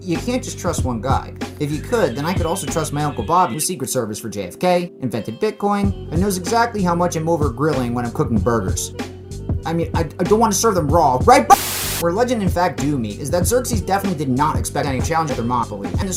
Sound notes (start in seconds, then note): 11.4 TV static